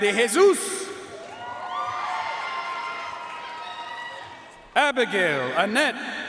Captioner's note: audience cheering and applauding